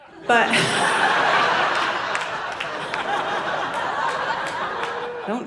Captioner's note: audience laughing